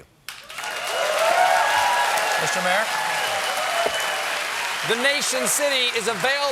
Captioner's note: cheers and applause